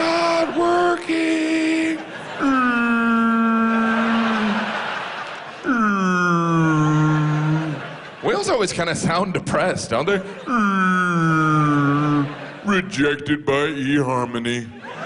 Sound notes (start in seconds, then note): 2.4 whale sounds; 5.6 laughter; 10.6 sad whale sounds